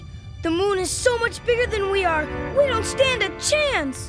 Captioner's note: none